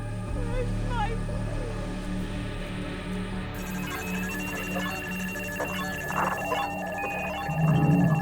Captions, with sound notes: Where's my boy? [radio beeping]